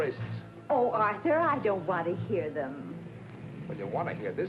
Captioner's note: none